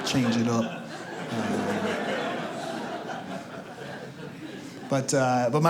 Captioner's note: audience laughs